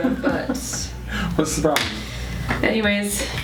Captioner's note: laughing